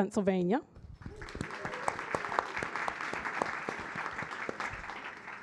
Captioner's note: audience applauding